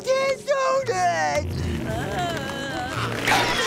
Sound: groaning

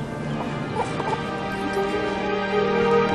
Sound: baby coos; instrumental music playing

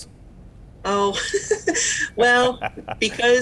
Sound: laughing together

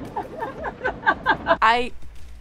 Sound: laughing

